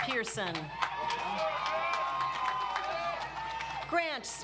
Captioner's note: audience applauds